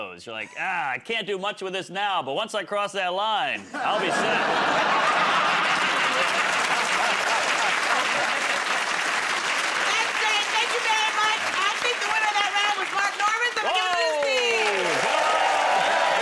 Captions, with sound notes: You're like, "Ah, I can't do much with this now. But once I cross that line, I'll be set." [ Laughter ] [ Applause ] -That's great. Thank you very much. I think the winner of that round was Mark Normand, so I'm going to give it to his team!